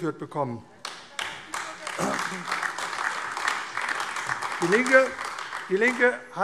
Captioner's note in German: Beifall AfD